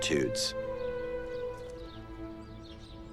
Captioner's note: birds chirping